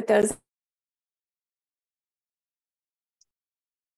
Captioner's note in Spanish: silencio